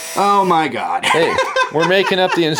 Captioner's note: laughing